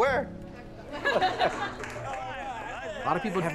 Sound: laughter

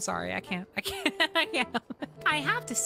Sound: laughing

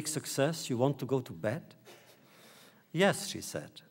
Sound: laughter

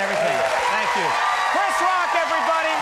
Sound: audience applauds

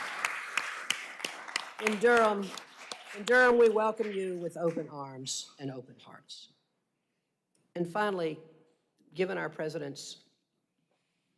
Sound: applause

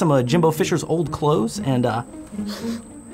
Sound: sniff

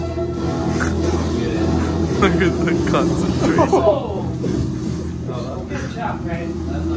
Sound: laughs

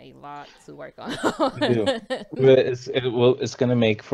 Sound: laughs

